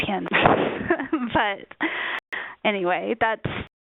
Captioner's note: laughs